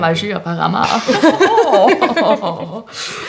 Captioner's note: they giggle